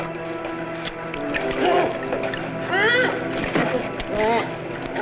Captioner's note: groans